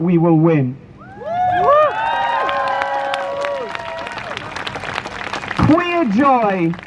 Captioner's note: crowd Cheers